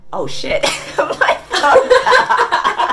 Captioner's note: laughter